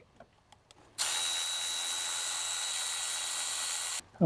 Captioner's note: drilling